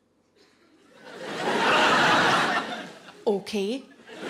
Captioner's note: audience laughing